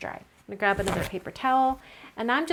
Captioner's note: tissue rips